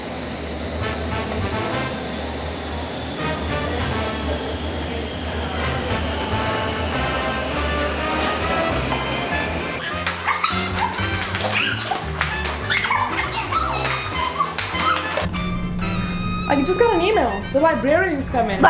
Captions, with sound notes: [SPED-UP JOYFUL SHRIEKS] >>I just got an email! The librarian is coming.